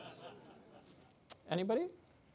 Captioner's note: audience laughing